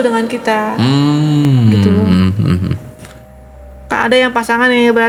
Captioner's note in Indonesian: berdehem